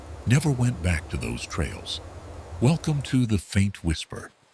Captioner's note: tv newsroom tone